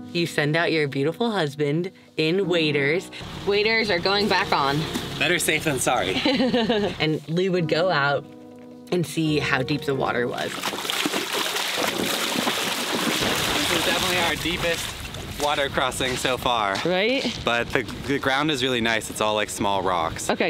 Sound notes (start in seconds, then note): 6.1 laughs; 9.7 water splashes